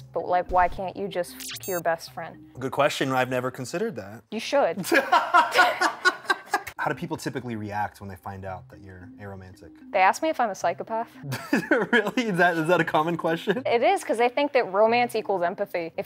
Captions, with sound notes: but why can’t you just be your best friend. -Good question. I’ve never considered that. -You should. [laughter] -How do people typically react when they find out that you’re aromantic? -They ask me if I’m a psychopath. -[chuckles] Really, is that a common question? -It is because they think that romance equals empathy.